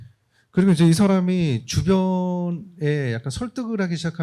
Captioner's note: speaking korean